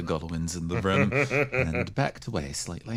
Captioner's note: laugh